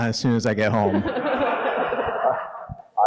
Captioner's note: audience laughing